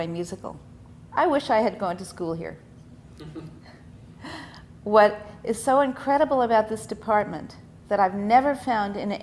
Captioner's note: laughs